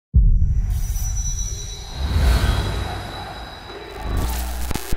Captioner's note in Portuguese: Multidão